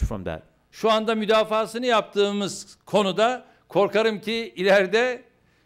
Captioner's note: non-english speech